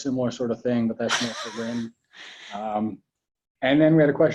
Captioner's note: drowned out by a laugh